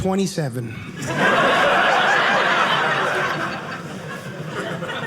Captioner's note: audience laughing